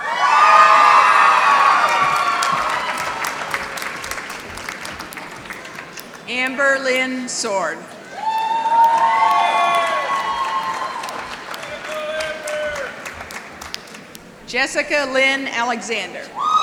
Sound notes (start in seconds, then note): 0.2 applause; 8.2 applause